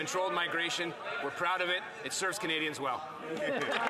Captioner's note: some laughter